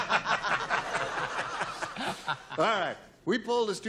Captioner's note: laughter